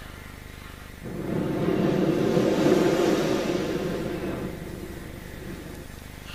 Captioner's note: shri mataji blows into the microphone